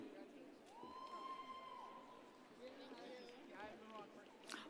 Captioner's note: audience cheers